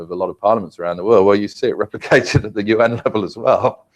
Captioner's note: laugh